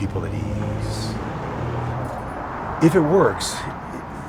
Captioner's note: engine whirring